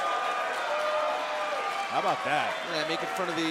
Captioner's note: crowd cheering